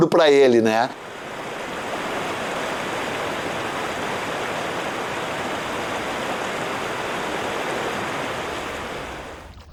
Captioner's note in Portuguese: barulho de rio